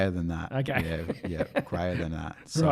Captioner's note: laughing